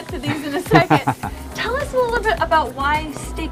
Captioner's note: laughter